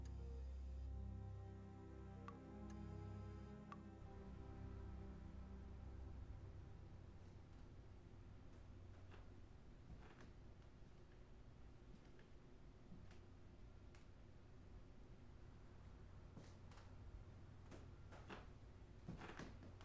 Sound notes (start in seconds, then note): 2.4 IV drips; 17.0 floor creaks